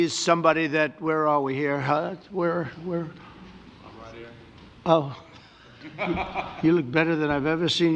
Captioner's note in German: lacht